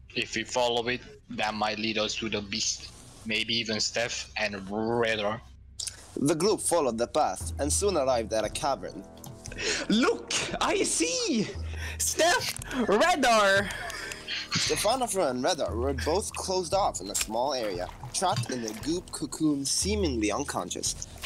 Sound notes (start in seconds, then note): 9.5 gasp